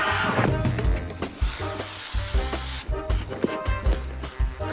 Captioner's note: air whooshes